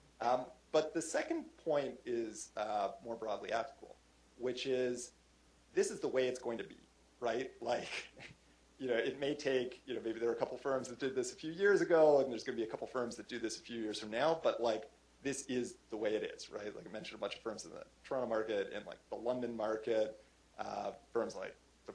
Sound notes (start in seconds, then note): 7.8 chuckle